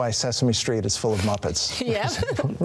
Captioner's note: chuckles